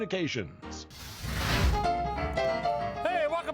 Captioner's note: dramatic whooshing; lively music